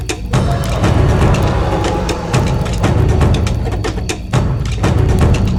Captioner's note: dramatic drum music continues; dinosaur growling continues; dramatic drum music continues